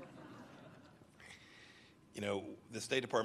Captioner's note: laughter